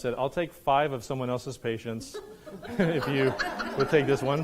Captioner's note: audience laughs